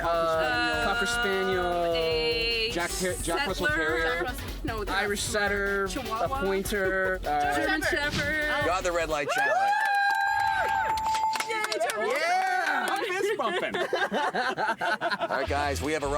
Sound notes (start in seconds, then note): 11.1 bells ringing; 14.1 laughing